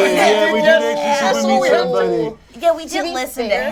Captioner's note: overlapping chatter